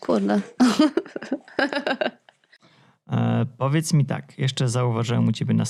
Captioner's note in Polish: śmiech